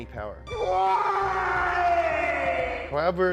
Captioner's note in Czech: řev v agonii